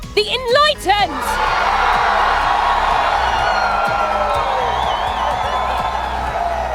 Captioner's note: crowd Cheering